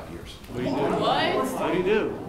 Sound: everyone vocalizing

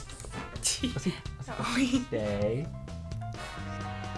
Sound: upbeat music; giggles

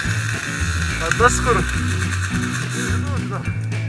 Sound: engine reving somewhere

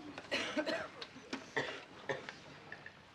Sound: coughing

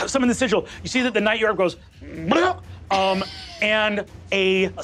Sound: burps

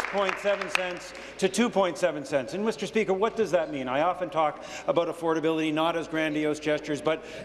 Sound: applause

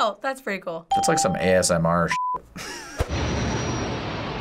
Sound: bell rings; explosions echo

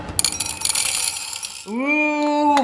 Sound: candies jingling

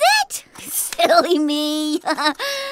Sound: chuckles

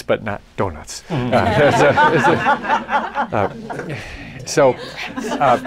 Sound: laughter

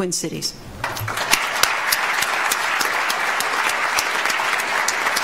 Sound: audience applauds

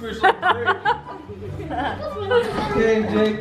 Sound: laughs

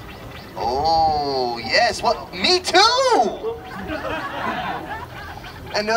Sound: audience laughter

